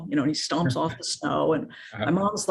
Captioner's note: chuckles